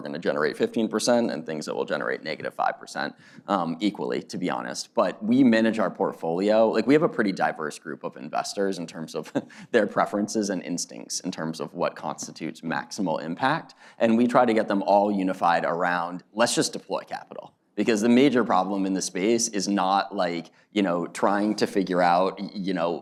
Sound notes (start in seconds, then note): 9.3 laughs